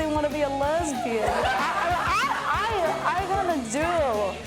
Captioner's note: laughter